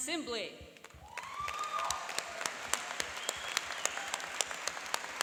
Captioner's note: cheering and applauding